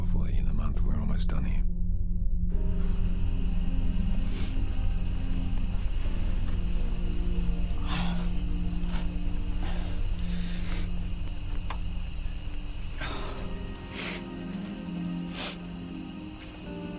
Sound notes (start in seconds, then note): 3.3 crickets chirping; 3.3 solemn music